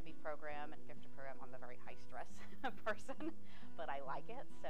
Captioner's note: laughing